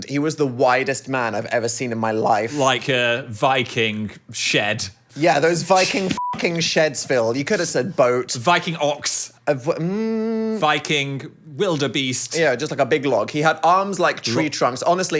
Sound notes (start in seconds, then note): 6.1 beep